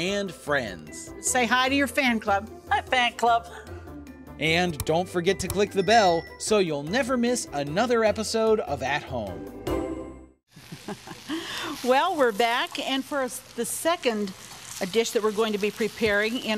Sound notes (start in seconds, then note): 10.5 chuckles